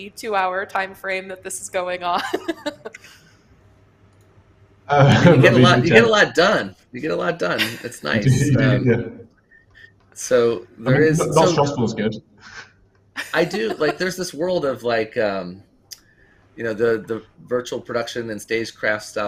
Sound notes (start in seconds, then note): 2.4 laughs